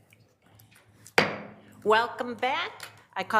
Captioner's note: gavel thumps